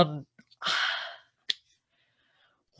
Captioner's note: sigh